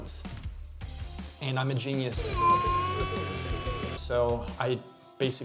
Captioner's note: wailing